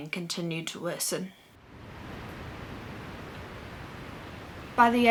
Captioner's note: sounds of waves crashing